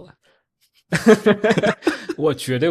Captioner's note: laughter